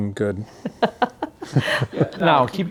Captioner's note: laughing